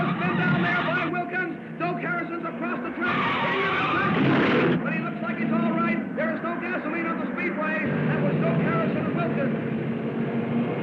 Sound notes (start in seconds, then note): 2.4 tires squealing; 3.0 car crashing; 10.6 cars revving